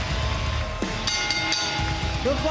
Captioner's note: bell rings